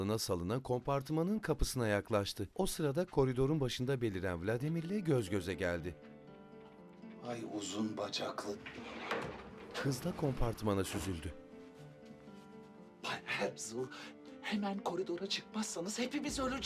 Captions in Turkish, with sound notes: Hay uzun bacaklı! (Kapı açılma sesi) (Kapı kapanma sesi) Bay Herzl, hemen koridora çıkmazsanız hepimiz öleceğiz!